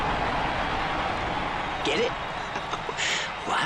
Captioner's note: crowd cheering for jets